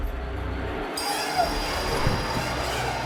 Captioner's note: screaming